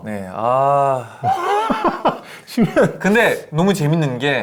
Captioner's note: groans